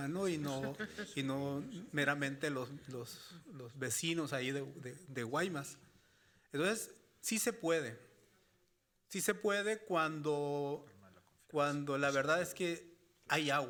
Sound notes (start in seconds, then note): 0.5 moderator laughing; 2.2 speaking Spanish